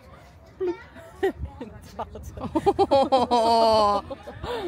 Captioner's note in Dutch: Gelach